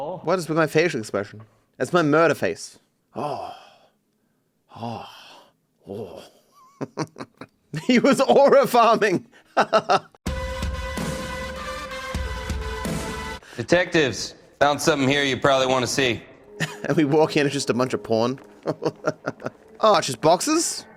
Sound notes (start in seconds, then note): 9.4 laughs; 18.3 laughs